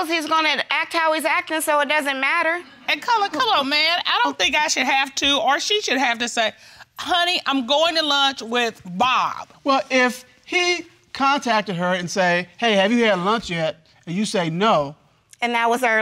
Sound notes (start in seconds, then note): none